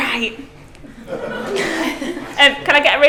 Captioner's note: class laughing